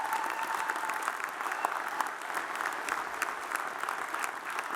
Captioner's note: audience cheers and applauds